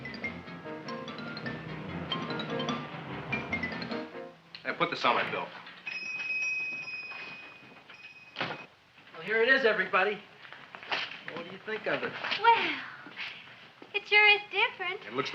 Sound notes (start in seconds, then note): 0.0 upbeat music; 0.0 traffic droning; 5.8 bell ringing; 8.7 door slamming